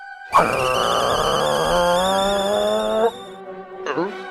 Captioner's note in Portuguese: Barulho de bule de chá de raiva